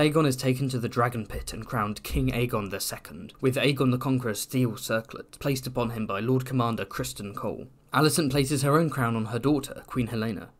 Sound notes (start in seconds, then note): none